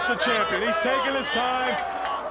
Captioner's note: crowd chatter